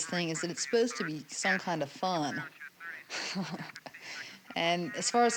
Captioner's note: laughs